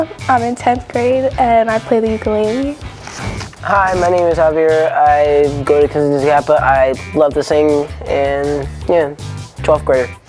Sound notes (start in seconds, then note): none